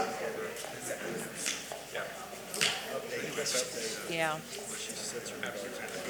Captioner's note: attendees chattering